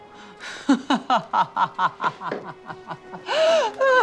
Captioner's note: laughing